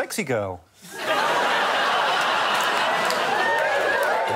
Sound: laughter

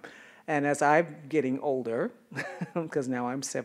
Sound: chuckles

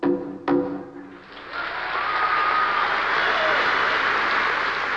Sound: applause

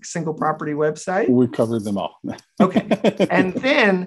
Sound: laughter

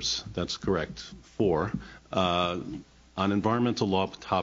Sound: none

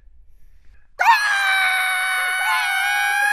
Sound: crowing

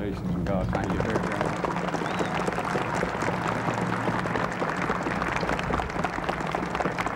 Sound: crowd applauding

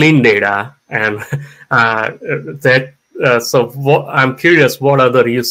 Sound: chuckles

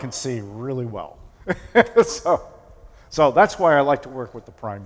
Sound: laughter

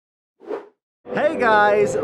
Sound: whoosh

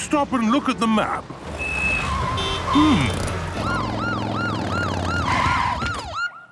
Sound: honking, sirens

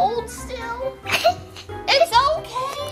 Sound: laughing

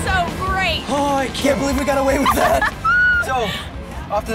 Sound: laughing

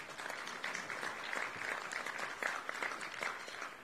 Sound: applauding

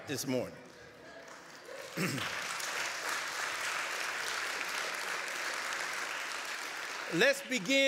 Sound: applause

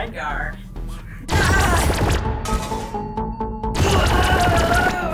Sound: laser zapping

